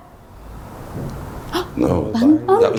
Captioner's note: whooshing; tapping; gasps